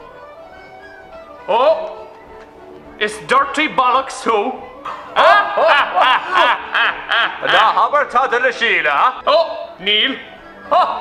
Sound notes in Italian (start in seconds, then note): 4.9 risate false